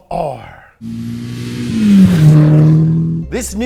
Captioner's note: engine revving